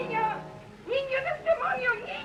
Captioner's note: speaking spanish